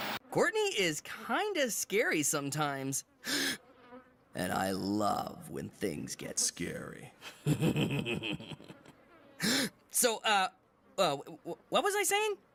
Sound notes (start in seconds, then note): 3.2 inhaling; 7.2 Mal Evil laughs; 9.4 Mike Inhaling